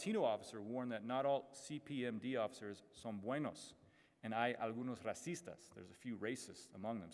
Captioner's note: speaks Spanish